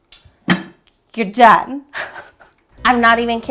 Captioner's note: laughing